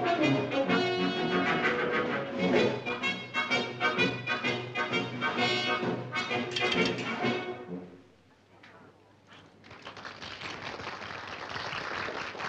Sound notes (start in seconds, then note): 9.4 applause